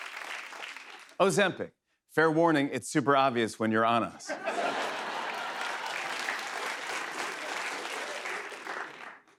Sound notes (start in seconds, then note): 4.2 laughter; 4.7 applause